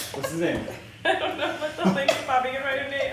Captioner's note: laughing